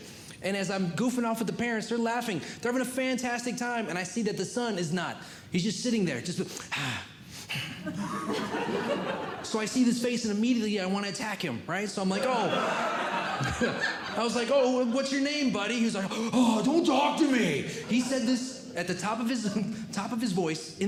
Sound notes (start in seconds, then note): 6.8 grunting and Groaning; 7.8 audience Laughing; 12.2 audience Laughing